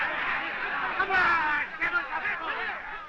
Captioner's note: all shouting